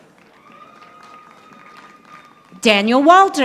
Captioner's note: audience applauding